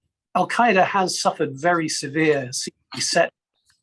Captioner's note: audio distortion; continued audio distortion